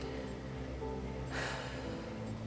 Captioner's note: deep sigh